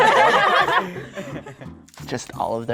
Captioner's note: contestants laughing